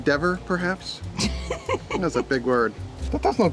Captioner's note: laughs